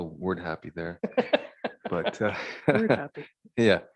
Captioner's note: chuckling